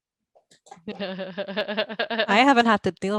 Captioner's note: laughing